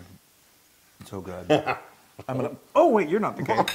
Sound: laugh

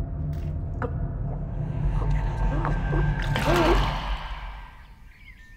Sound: Brigit gulping; birds chirping

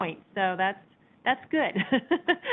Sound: giggles

